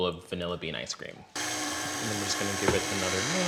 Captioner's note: mixer whirring